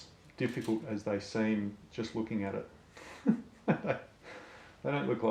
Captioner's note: laughs